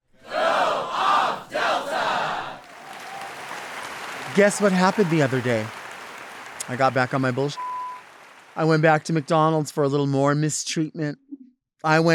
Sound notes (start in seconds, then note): 3.0 audience applauding; 7.6 beep